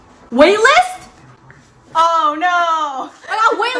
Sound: sarcastic

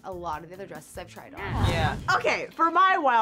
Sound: whoosh

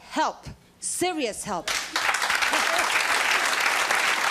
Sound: clapping

